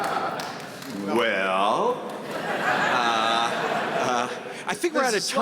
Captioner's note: audience laughing